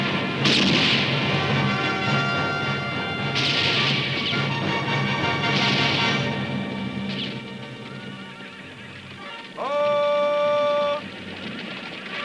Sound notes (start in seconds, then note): 3.4 guns roaring; 4.4 dramatic music continues; 9.3 horse whinnies